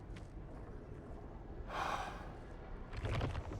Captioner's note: sigh